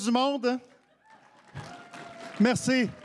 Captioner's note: cris et applaudissements